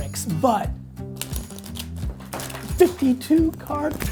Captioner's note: cards shuffling